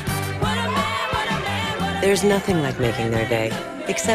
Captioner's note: laughing